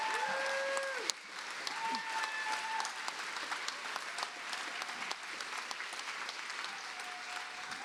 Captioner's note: cheers and applause